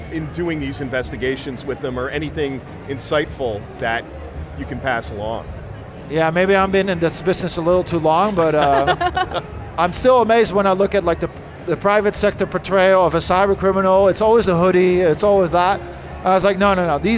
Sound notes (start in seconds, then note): 8.2 hosts chuckling